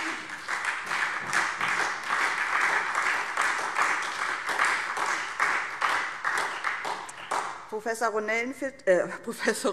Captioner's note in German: Beifall SPD